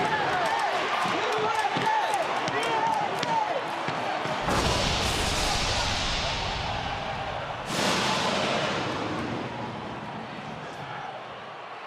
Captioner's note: audience chanting "usa"